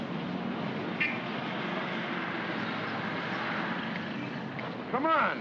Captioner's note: city street sounds